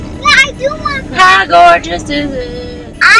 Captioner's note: sing-song voice